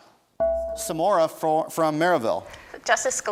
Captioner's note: bell rings